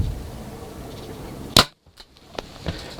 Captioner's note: sound of bowshot